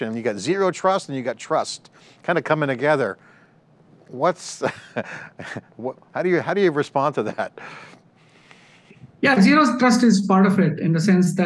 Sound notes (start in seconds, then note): 4.7 laughs